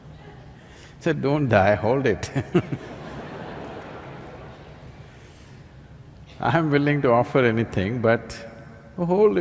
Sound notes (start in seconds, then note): 0.0 laughs; 5.0 laughter